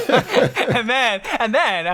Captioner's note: laughter